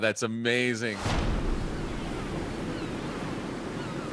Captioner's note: waves crashing; birds chirping